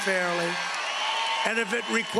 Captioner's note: cheering and applause